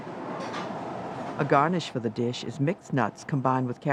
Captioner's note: voiceover